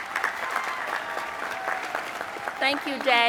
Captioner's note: applause